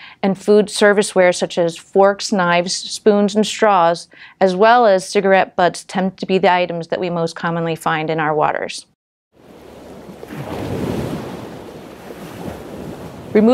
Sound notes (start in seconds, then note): 9.4 crashing wave